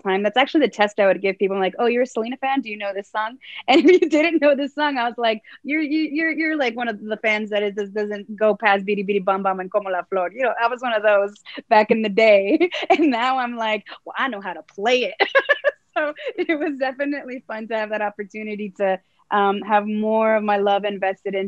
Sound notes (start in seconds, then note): 15.2 laughs